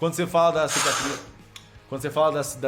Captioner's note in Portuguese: sopro